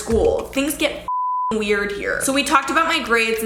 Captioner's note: beep